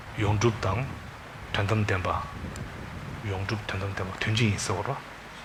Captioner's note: speaking in foreign language